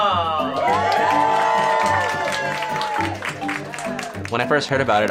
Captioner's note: applause and cheering